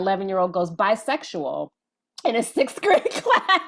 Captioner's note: laughing